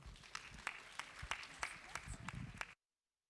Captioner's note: applause